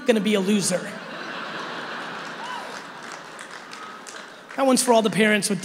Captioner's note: audience laughing